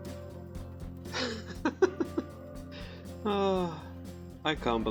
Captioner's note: laughs, sighs